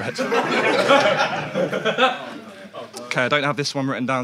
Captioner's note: audience laughs